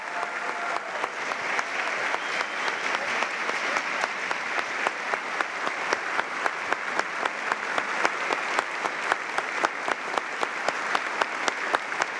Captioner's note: cheers and applause